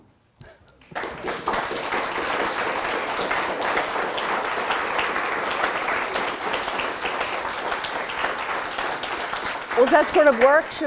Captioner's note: audience applause